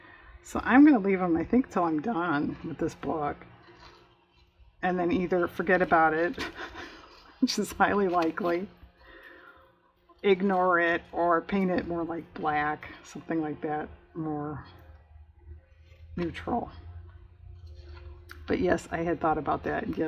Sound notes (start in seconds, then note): 6.3 laughs